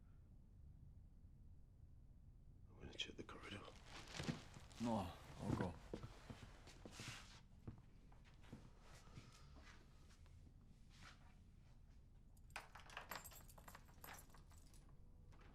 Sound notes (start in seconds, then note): none